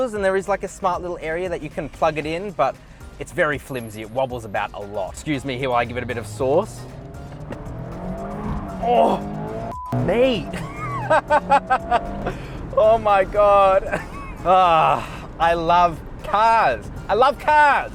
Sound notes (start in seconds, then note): 5.3 car engine revving; 9.7 beep; 10.4 laughs; 13.9 laughs